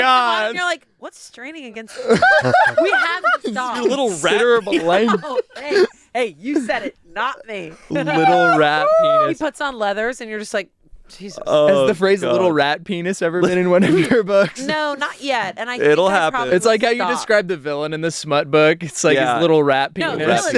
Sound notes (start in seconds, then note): 2.0 everyone laughs